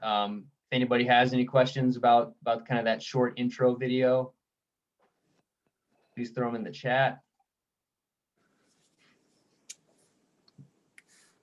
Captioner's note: silence